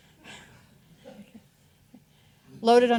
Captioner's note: audience chuckling